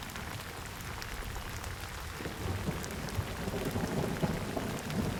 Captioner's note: thunder rumbling